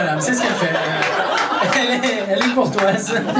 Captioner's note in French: rires public